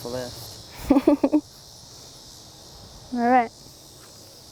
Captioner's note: laughing